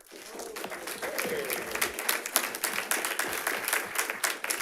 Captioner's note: audience applauds